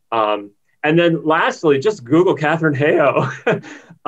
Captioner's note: laughs